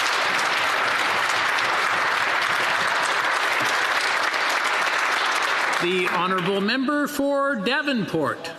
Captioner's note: applause